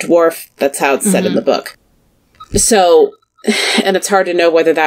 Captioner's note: sighs